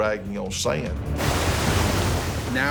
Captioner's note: splashing; voiceover